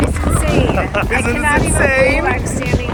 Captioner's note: laughing